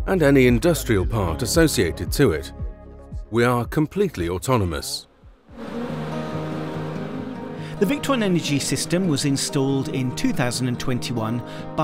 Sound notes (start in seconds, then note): 5.4 bees buzz; 5.6 cheery folk music